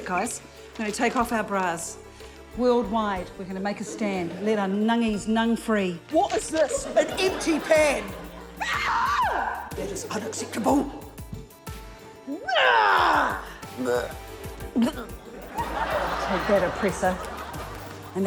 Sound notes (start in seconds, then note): 8.6 shrieks; 12.4 grunts; 15.3 laughter